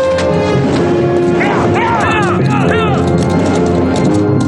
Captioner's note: gunfire continues